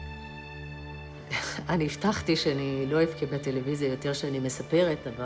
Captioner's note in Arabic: الصوت المنطوق باللغة العبرية